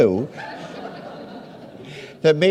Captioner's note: audience laughs